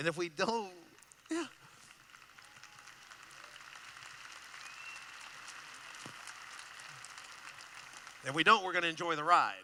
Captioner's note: applause